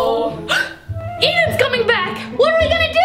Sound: gasps

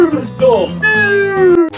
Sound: glitch

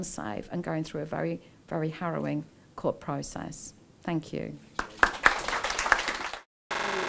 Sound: applause

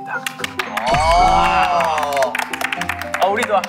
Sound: applaud

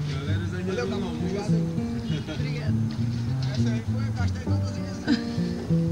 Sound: people speaking in foreign language

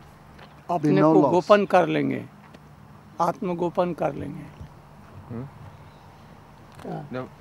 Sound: speaks hindi

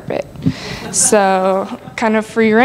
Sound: laughter

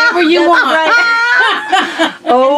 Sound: laughing

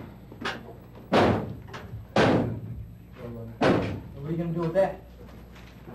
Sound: loud slamming noises everyone ignores

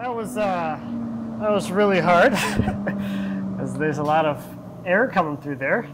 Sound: air noise moving through ducts

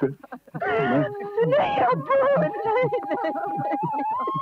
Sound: wailing

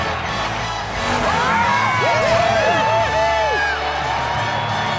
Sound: crowd cheering; cheering

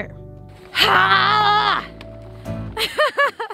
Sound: yells; laughs

